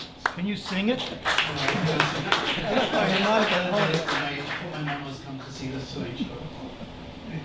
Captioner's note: applause